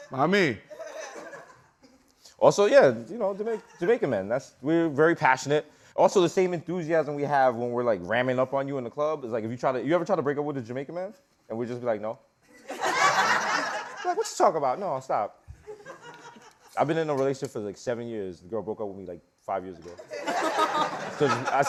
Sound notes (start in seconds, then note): 12.5 laughter